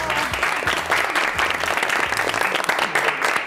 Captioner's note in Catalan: aplaudiments